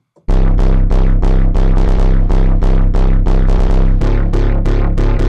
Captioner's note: electronic tones sounding